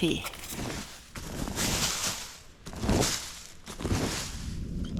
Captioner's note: scrape scrape scrape